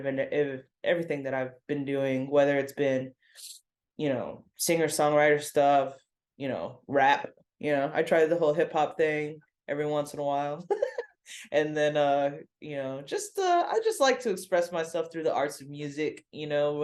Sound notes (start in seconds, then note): 10.7 laughs